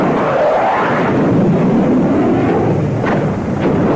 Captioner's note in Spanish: sonido de avión